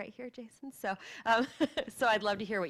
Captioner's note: laughter